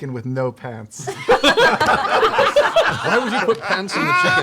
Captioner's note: laughter